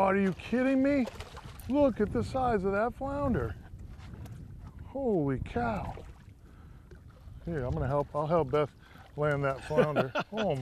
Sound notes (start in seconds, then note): 5.5 splashing